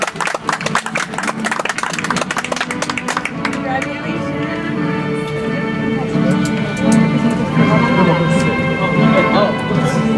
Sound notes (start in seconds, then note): 2.3 audience applauds; 7.7 soft music